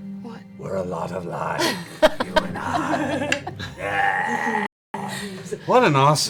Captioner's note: in an exaggeratedly evil voice; normal voice